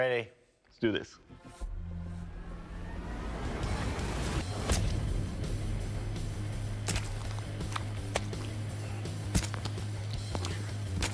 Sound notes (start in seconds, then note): 4.6 squishes; 9.0 squishing